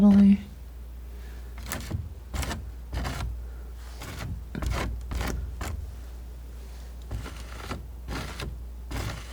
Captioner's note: tapping